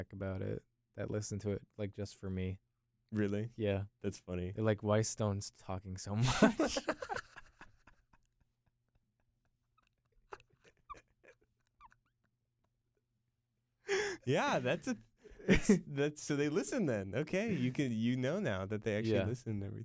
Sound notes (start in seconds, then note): 6.2 laughs